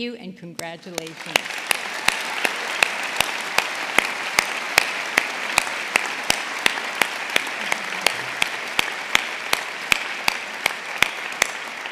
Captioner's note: applause